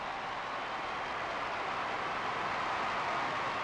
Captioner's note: cheers and applause